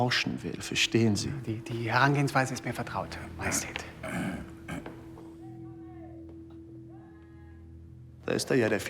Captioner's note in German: räuspern